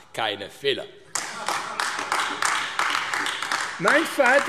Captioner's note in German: Heiterkeit und Beifall AfD